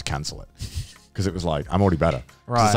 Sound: laughing

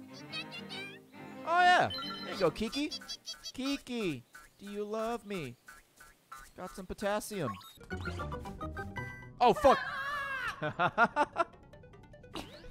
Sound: laughs

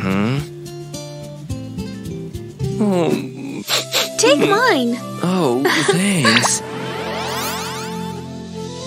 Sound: sniffling

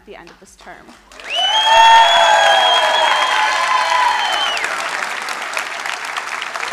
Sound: crowd cheering and applauding

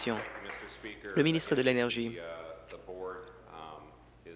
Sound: applause

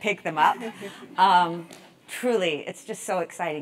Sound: laugh

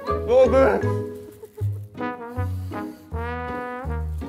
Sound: mouth full

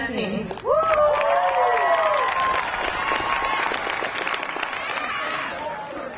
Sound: audience cheering and clapping

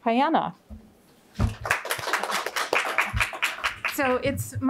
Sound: audience clapping

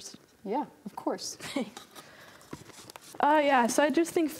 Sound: chuckles

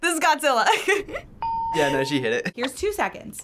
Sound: laughs; ding

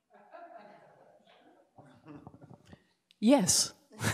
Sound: laughter; laughter

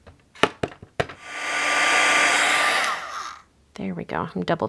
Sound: dryer humming

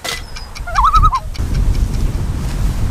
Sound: loon call

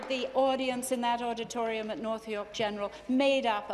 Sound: applause

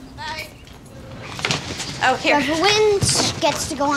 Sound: boy chatting

